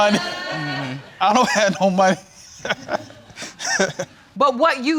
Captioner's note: laughing